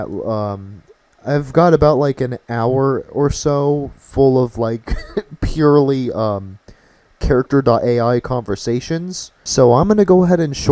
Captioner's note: laughing